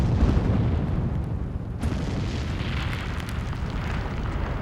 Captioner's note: explosion